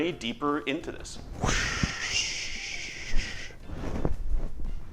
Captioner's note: whoosh